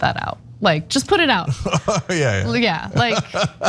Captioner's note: laugh